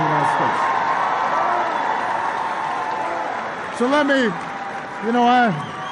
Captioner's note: applause